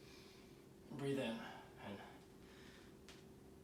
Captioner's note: inhaling